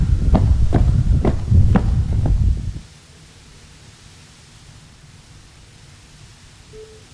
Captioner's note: footsteps